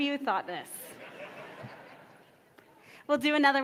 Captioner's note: audience laughs